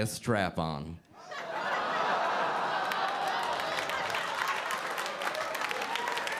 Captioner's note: audience laughing and clapping